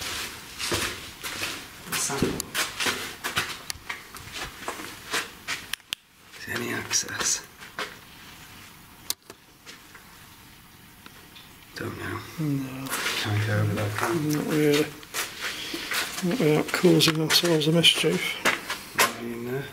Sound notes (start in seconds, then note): 13.7 muttering